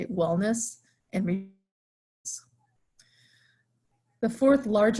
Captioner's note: audio fading away